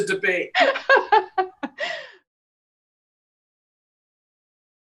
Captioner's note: laughs